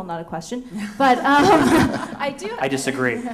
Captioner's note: laughter